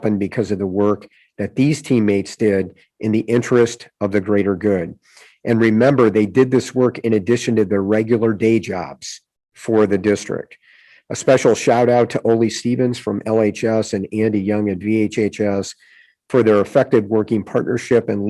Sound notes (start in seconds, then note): none